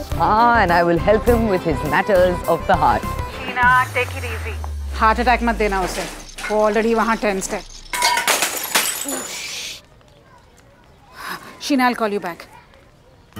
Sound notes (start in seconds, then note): 5.8 glass bottle breaks